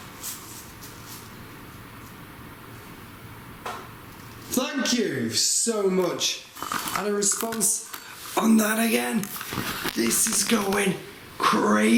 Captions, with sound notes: (tap) Thank you so much! And a response on that again, this is going crazy.